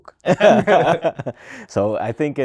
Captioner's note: laughter